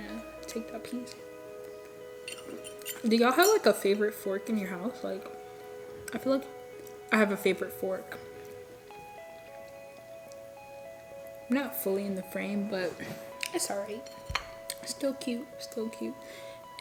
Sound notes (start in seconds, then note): none